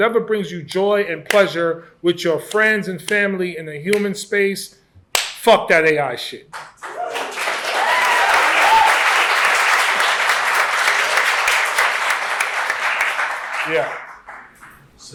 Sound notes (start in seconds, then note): 6.6 applause and cheering